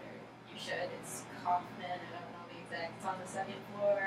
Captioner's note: speaking softly